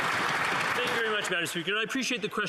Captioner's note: some Applause